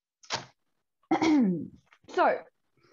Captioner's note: MORGAN clears their throat